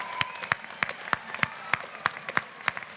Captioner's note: applause